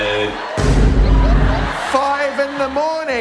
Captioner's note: dramatic boom